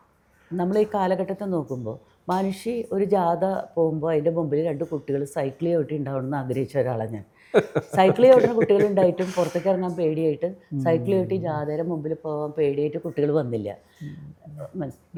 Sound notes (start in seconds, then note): 7.5 laughs